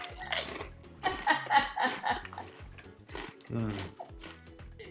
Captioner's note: laughs; chip crunches